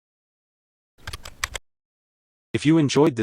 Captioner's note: typing